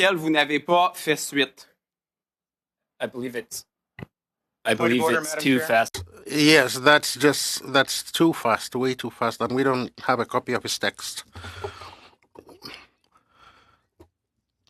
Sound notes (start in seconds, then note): 3.5 speaking French